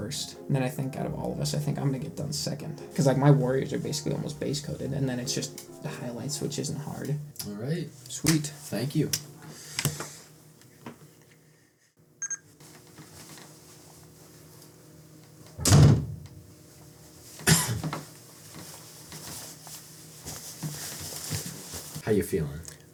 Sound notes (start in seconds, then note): 12.2 bebeep; 15.6 slam; 17.4 cough